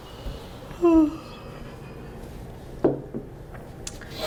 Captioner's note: Allison yawns